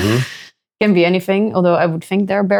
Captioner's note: laughing